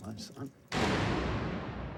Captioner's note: bang